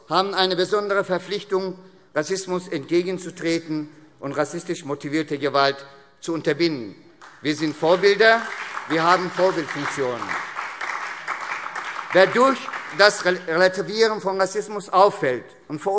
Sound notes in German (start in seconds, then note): 7.1 Beifall SPD